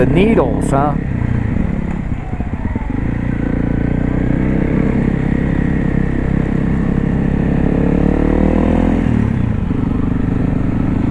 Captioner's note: more brap